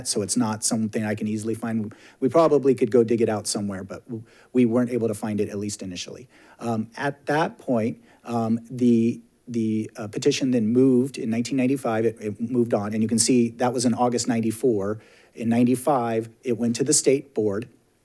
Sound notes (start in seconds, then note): none